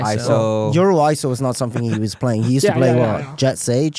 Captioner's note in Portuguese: risos